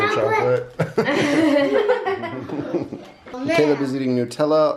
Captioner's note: everyone laughing amusingly